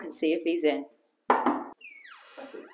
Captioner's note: knocking